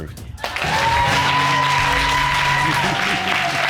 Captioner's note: audience cheering